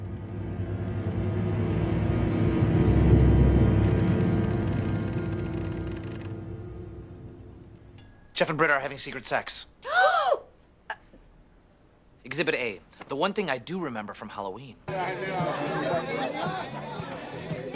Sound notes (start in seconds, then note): 0.0 intense sound swells; 9.8 ANNIE and SHIRLEY gasp